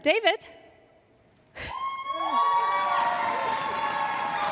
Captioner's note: applause